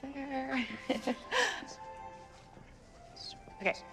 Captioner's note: chuckling